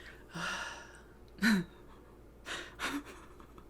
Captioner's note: sighs and laughs